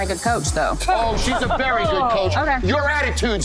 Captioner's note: scoffing